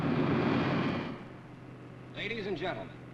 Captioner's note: none